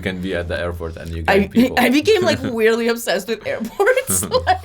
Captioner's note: laughs